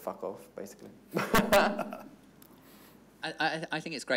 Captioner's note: everyone laughing